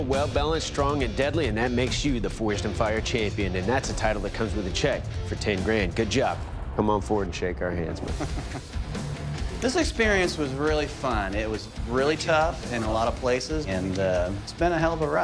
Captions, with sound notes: strong, and deadly. And that makes you the "Forged in Fire" champion. And that's a title that comes with a check for 10 grand. Good job. Come on forward and shake our hands. [laughs] This experience was really fun. It was really tough in a lot of places. And it's been a hell of a ride.